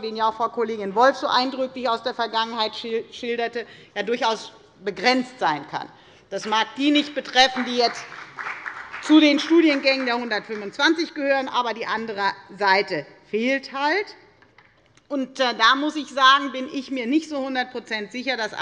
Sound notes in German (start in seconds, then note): 5.7 Beifall bei der FDP